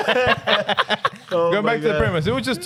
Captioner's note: laughing